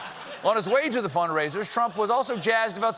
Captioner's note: laughter